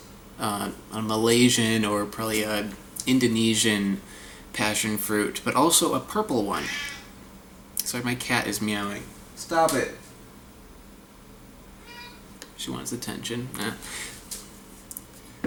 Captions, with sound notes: a Malaysian or probably an Indonesian passion fruit, but also a purple one. (Cat meowing) Sorry, my cat is meowing. Stop it. She wants attention.